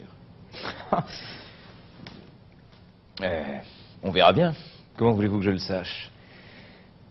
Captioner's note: chuckles